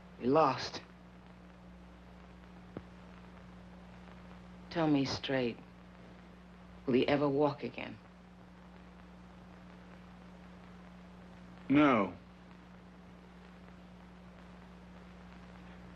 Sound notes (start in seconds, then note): none